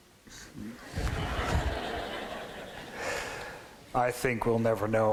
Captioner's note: laughter